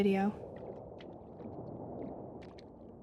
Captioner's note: faint waves lapping